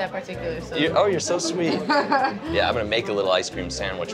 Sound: chuckles

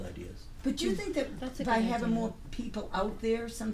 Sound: voiceover

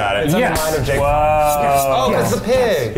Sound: chattering

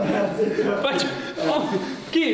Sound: laughing

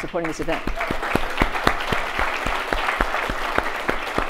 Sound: applause

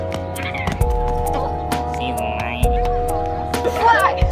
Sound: alien noises

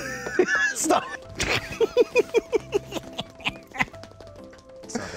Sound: giggles

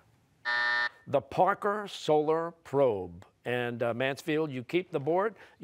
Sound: buzzer

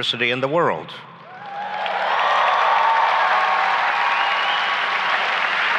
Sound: applause and cheering

